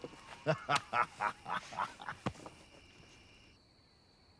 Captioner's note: Kjartan laughs; crickets chirping